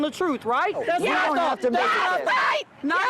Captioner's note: shouting